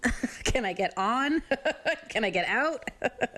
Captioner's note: chuckles